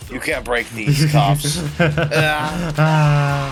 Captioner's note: laughs